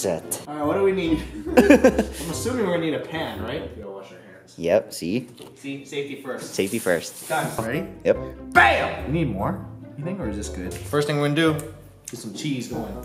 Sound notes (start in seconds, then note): 1.2 laughing; 3.5 quietly